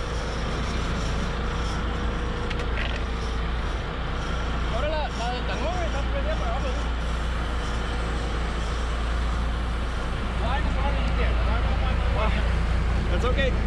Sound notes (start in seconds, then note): 0.0 clattering; 5.2 speaking in spanish; 8.2 reel cranking